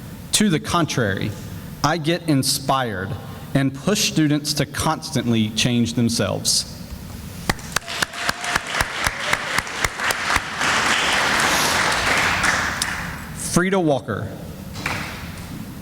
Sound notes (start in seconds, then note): 7.5 sounds of applause